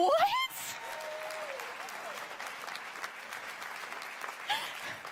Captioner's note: applause and cheers